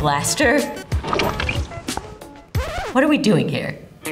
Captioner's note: paint splattering; upbeat music